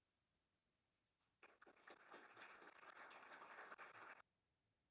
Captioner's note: applause